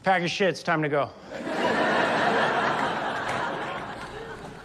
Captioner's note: audience laughs